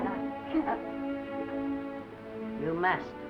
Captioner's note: sobs